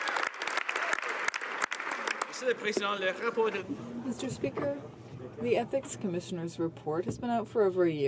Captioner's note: some Applause